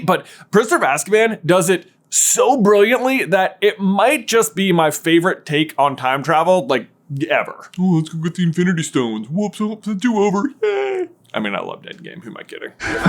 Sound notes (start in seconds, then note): 7.8 mocking